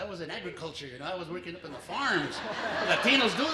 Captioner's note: laughter